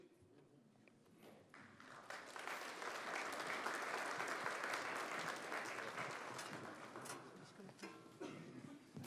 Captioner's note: applause